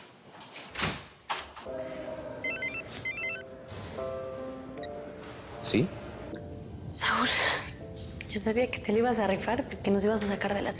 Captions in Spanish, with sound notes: [Suena el celular] - ¿SI? - SAUL, YO SABIA QUE TE LA IBAS A RIFAR,